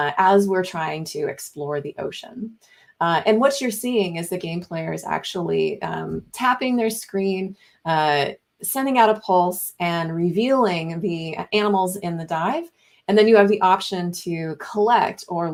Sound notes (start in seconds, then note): none